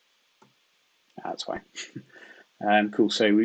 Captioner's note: chuckles